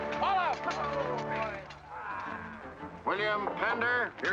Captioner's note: men groaning in relief